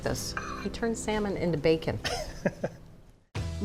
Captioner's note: laughs